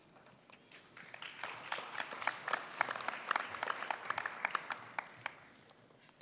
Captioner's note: applause